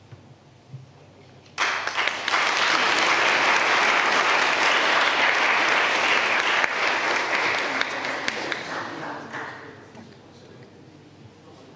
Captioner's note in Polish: oklaski